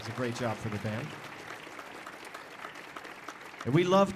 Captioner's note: audience applauding